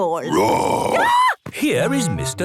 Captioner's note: roar, scream